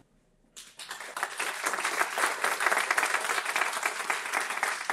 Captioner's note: audience clapping